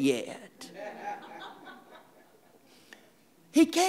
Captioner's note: audience laughing